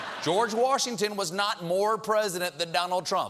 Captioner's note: laughter